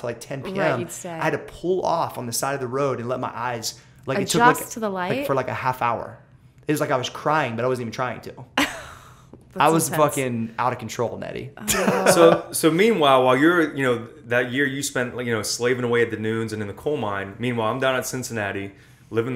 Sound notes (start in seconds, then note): 8.7 astounded laughter; 11.6 laughter